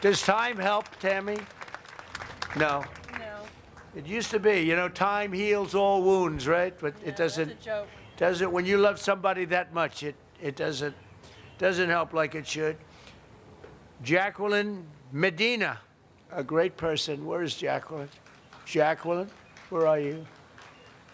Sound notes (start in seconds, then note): 4.6 applause